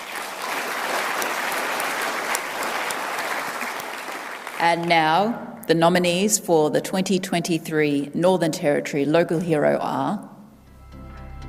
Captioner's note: applause